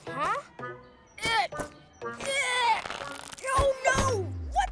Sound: straining

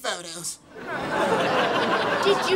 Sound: laughing

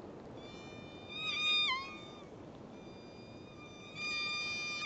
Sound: whale whining

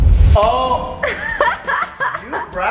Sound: laughing

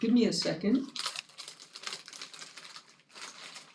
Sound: plastic bag crinkling more softly

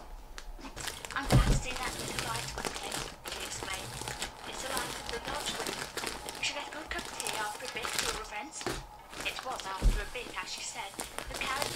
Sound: plastic crinkling

